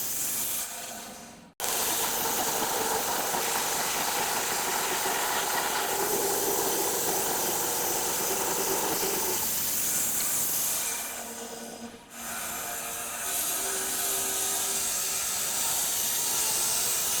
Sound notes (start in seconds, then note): 1.8 saw whizzing; 13.3 saw whizzing